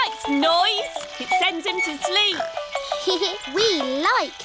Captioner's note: giggles